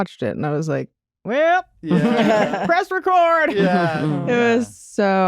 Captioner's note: playfully; laughter